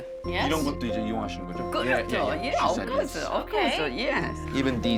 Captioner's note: speaking Korean